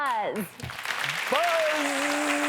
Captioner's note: audience clapping